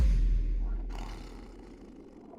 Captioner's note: air whooshing; Bigfoot snarling; wind blowing